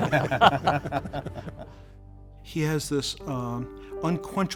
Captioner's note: laughing